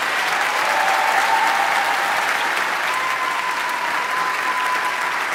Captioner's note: audience applauding; audience cheering